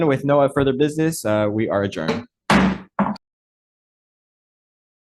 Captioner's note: knocks gavel